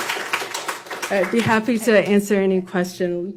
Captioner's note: applause